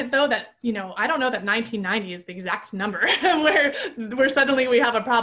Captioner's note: laughing